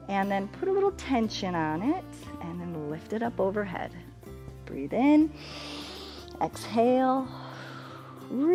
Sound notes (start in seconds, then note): 5.3 exhales; 5.3 inhales